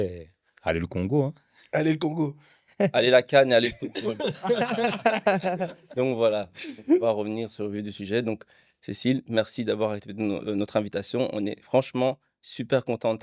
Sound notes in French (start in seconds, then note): 3.6 rires